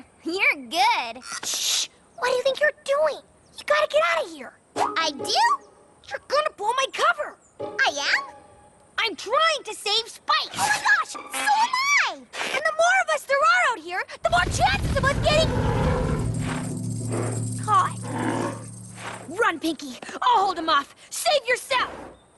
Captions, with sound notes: You're good. Shh! What do you think you're doing?! You got to get out of here! I do? You're gonna blow my cover! I am? I'm trying to save Spike! Oh, my gosh! So am i! And the more of us there are out here, The more chances of us getting... [ Rumbling, snorting ] ...caught. Run, Pinkie! I'll hold them off! Save yourself!